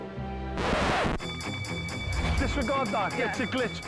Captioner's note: record scratching; train bell dinging